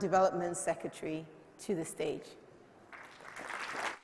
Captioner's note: applause